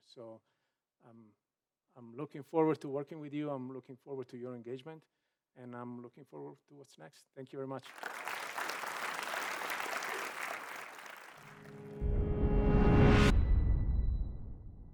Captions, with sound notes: So, I'm looking forward to working with you. I'm looking forward to your engagement and I'm looking forward to what's next. Thank you very much. (audience applauding) (dramatic music)